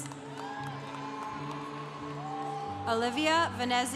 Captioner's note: congregation cheering